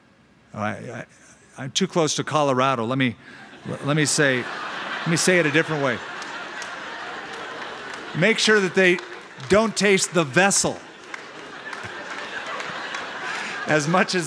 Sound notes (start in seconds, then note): 6.8 laughter